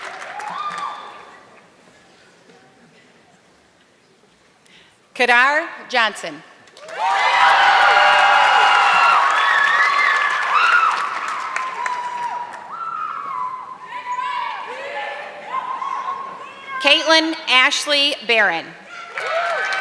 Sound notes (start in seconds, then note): 6.6 audience clapping; 18.9 audience clapping